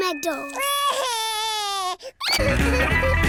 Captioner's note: cries